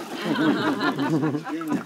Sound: laughter

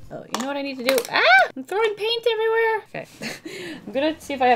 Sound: chuckles

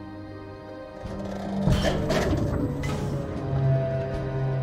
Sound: clunking, Creaking

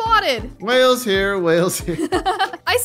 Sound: laughing

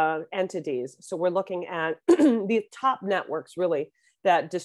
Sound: clears throat

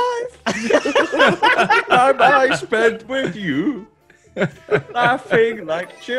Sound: laugh

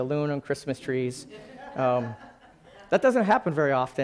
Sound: laughing

